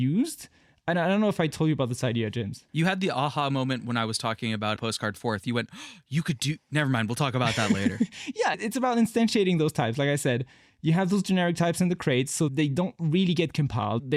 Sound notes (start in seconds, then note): 5.7 gasp